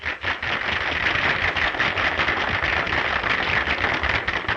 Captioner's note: audience applauding